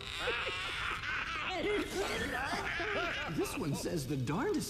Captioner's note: all laugh